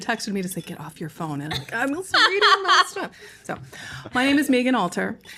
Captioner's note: laughter